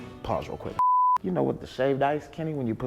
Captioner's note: beeping sound